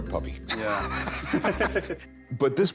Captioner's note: laughter